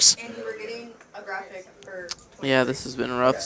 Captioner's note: indistinct chatter